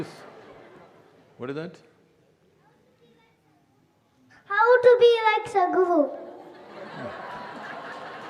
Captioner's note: laughter